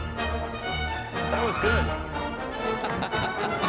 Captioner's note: laughs